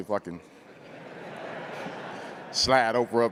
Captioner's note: crowd laughing